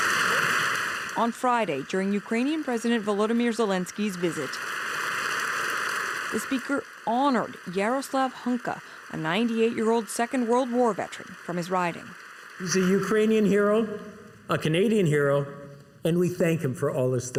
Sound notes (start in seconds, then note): 1.7 applause